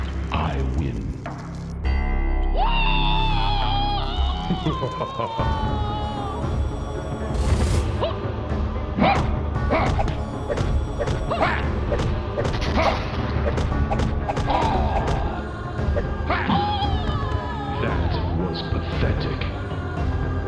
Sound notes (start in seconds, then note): 2.4 yells; 4.1 laughs